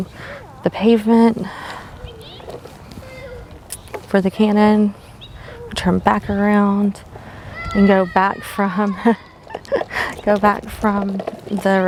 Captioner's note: laughs at kids playing in the background